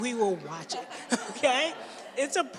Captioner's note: laughter